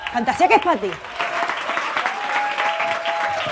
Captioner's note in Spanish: Aplausos